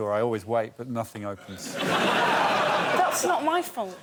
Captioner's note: laughter